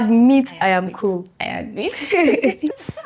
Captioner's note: laughs